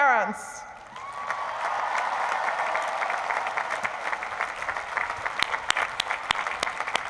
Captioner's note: applause